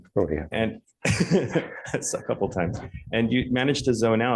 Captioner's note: laughs